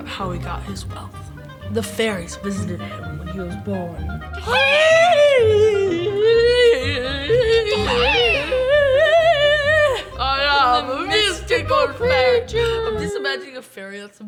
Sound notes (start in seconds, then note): 4.5 kids making spooky noises